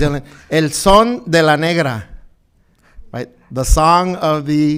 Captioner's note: speaking in foreign language